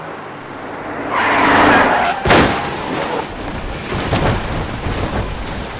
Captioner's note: skidding tires and crash sounds